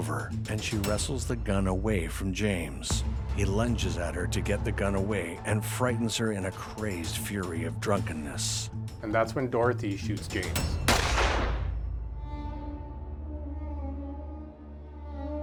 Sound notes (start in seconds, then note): 10.8 gunshot exploding; 12.0 somber music